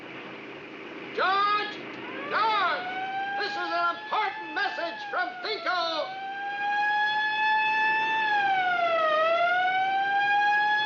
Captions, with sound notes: George! This is an important message from Thinko! [sire wailing]